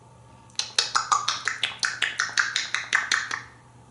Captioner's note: eating sounds